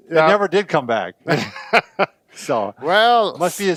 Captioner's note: laughs